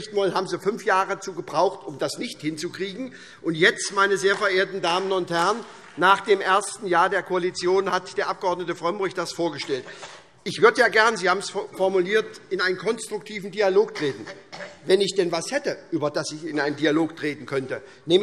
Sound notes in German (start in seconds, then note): 3.2 Vereinzelter Beifall SPD